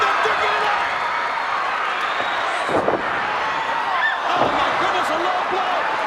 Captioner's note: applause